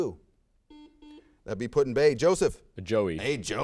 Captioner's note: buzzer sounds